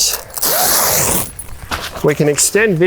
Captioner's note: velcro tearing